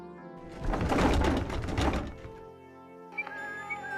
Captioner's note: clattering; whistling